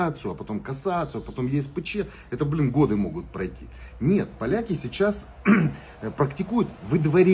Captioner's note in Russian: откашливается